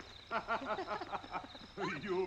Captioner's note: Fredda and Mr. Imperium laughing; singing